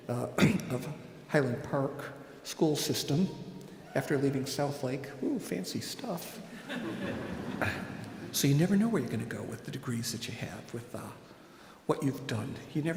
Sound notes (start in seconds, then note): 6.4 audience laughing